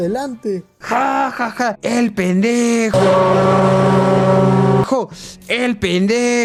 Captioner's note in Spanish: Sonido real del Titanic